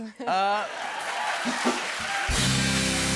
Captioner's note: cheers and applause